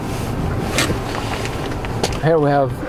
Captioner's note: car Sound